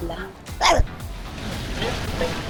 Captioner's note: growls